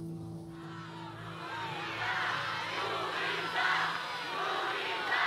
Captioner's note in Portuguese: fãs em coro